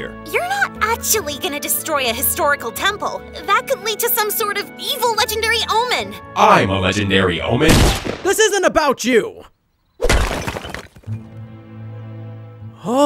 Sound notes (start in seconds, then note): 7.6 gun fires; 10.0 bricks thudding; 11.2 upbeat calm music continues